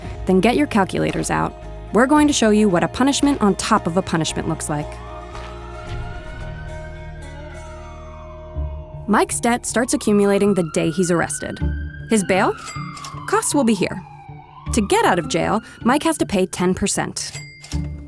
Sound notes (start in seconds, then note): 5.3 sirens blaring